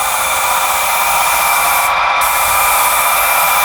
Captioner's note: hose spraying